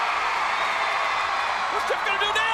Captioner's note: audience cheering